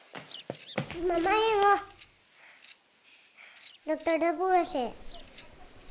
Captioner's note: boy speaking in a foreign language